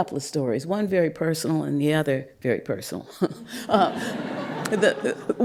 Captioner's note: laughter